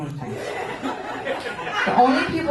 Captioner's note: laughter